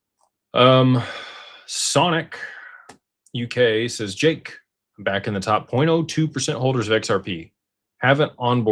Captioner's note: sighs